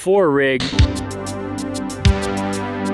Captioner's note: synth music; static